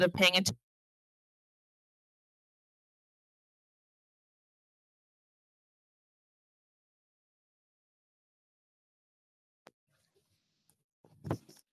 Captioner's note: silence